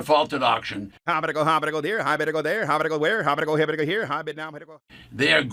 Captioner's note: auctioneer speaking at high speed